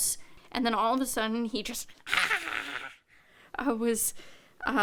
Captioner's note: groans